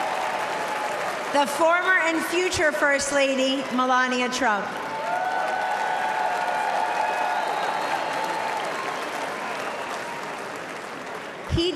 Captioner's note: cheering and applause